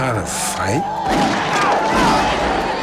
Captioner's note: gunfire